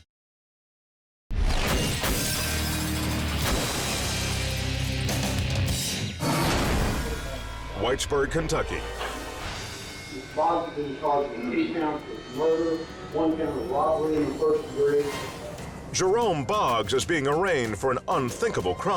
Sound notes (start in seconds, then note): 1.9 squashing sound